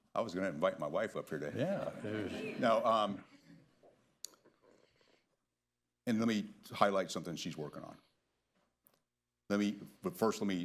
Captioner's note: laughter